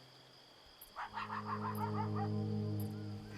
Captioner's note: dog barking